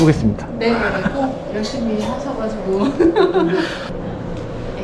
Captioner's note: laughs